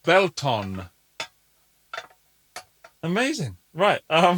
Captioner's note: glass clinking